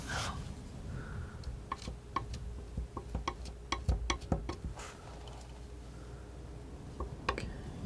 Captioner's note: tapping